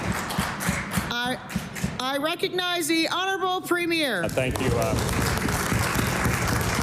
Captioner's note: applause